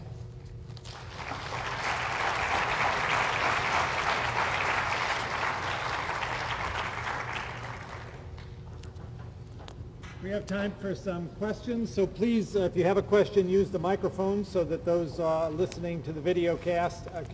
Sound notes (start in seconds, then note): 3.4 applause